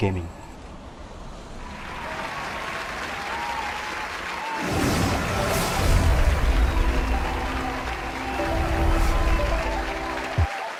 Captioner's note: applause